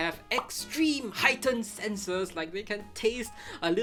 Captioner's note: graphic pops